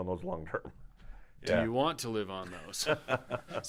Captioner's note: laughing